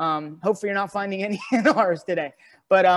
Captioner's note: laughs